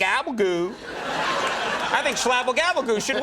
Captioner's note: audience laughing